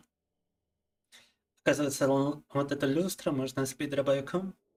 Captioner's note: speaking in Russian